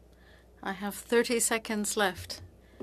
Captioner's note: speaking French